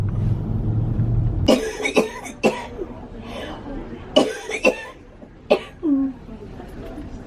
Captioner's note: sound of coughing